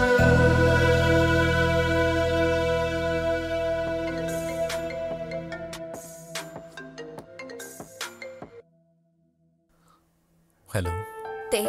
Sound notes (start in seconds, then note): 4.0 phone rings